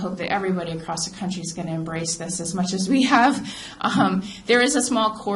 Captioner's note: laughs